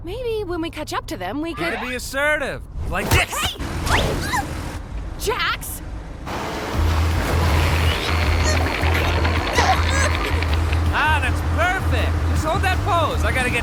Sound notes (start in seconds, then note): 4.2 screams; 7.7 groaning